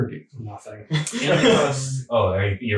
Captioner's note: laughing